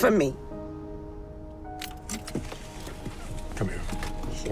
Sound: seatbelt unbuckles

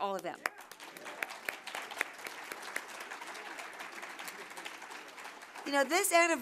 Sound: applause

